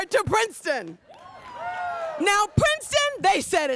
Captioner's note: audience cheers